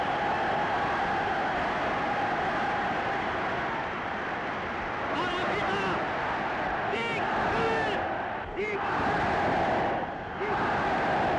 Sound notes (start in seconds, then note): 5.8 speaking in foreign language